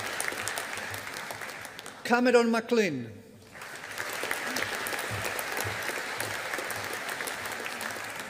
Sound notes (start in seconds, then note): 0.0 audience applauding; 3.4 audience applauding